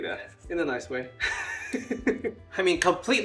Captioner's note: laughs